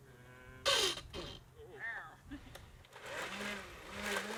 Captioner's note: whirring